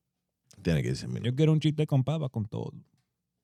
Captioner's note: speaking In Foreign Language